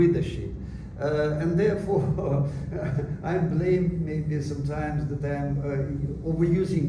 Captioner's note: laughs